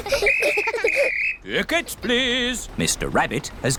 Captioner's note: blows whistle